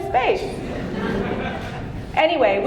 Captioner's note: audience laughing